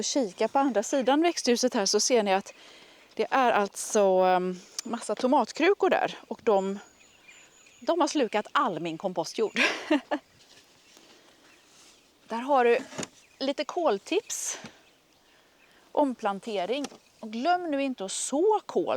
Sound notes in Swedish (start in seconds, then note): 9.5 skratt